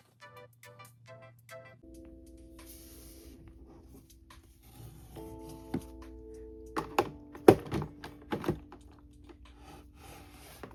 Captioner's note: putting console in dock sounds